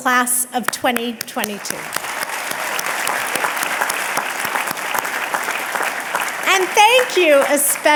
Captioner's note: audience clapping and cheering